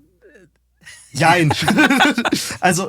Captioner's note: alle lachen